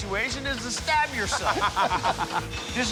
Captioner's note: laughing